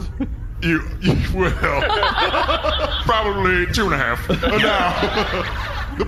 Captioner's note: laughter